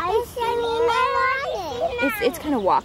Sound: kids talking

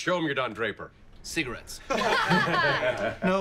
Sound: everyone laughs

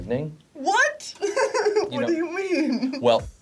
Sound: laughs

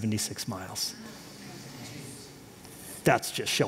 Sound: audience reacts

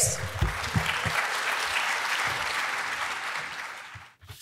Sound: audience applauds

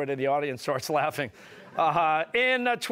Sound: audience laughing

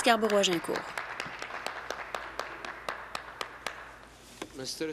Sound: some Applause

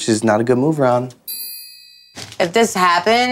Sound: ding

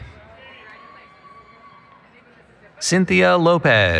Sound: cheering

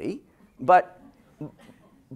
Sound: laughter

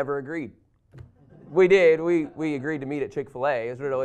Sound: laughter

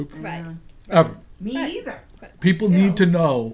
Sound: voiceover

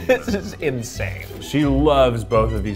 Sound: laughing

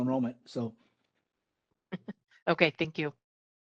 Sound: laugh

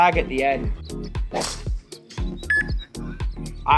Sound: golf club whacks; machine beeps

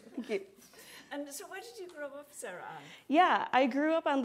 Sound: laughter

